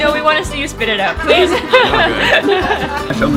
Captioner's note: laughing